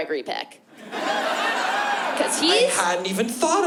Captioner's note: laughter